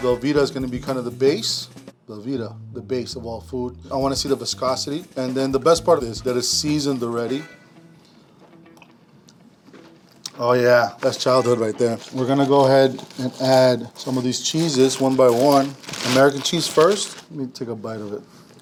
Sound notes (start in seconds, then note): 8.8 gulping